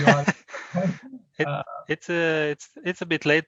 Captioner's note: laughter